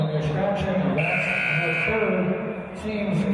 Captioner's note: buzzer